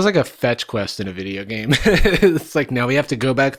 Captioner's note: laughs